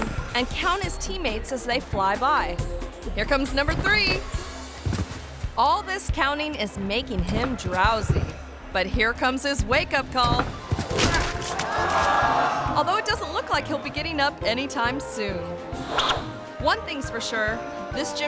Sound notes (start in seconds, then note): 4.8 body thumps; 10.2 body thuds